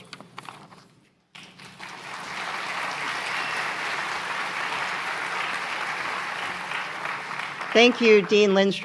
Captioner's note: applause